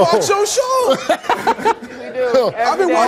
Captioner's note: Steve laughs